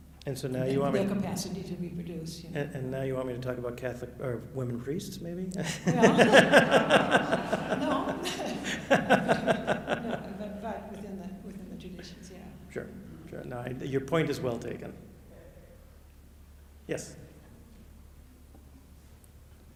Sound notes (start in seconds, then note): 5.6 chuckles; 8.4 off microphone